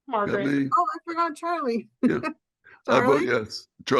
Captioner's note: laughs